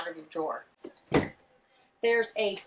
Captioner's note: door opening